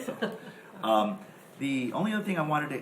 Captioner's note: chuckles